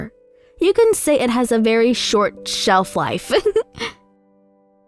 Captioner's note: laughs